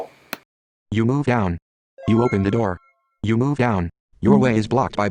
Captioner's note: opened door earcon sounds